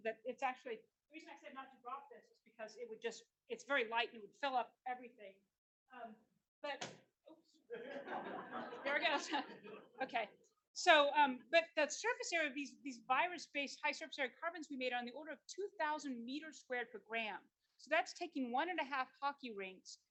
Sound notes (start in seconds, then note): 6.8 thump; 7.6 laughter